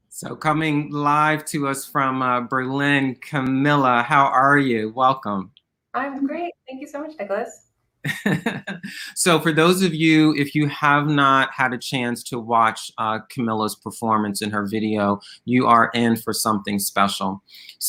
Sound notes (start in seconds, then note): 8.0 laughing